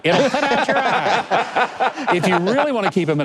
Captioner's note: laughing